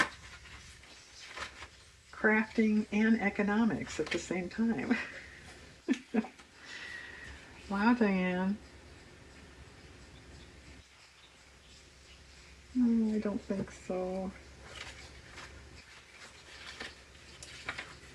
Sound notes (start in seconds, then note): 4.8 laughs